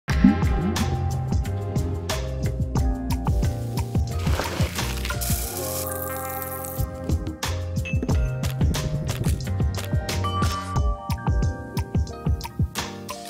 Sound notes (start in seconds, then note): 0.8 upbeat music; 3.3 food sizzling; 8.0 glass clinking; 10.2 chime sounding